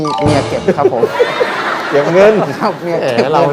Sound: laughing sound

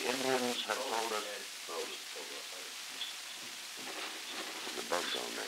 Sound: production chatter

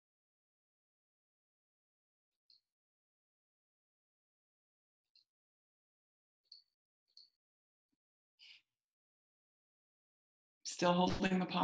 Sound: silence

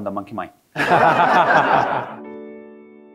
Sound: all laughing; soft music

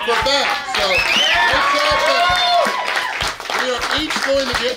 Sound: crowd cheering

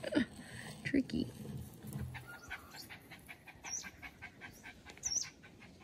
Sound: dog continues panting loudly

